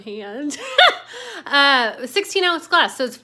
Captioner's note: laughs